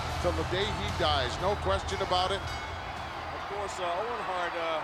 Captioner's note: bell ringing